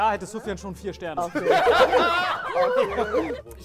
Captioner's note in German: Gelächter, Sirenenlaute